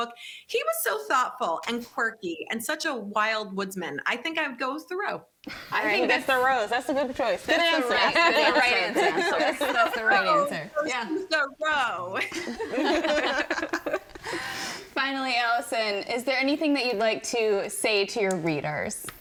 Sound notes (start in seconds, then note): 12.3 everyone laughing